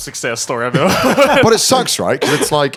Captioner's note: laughing